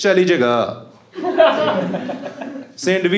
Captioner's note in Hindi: हँसना